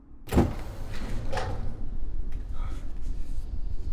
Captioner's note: door opens